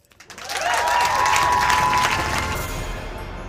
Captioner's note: applause